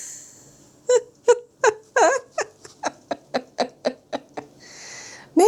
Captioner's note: laughs